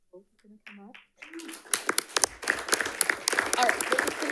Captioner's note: audience applauds